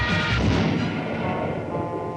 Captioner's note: blammo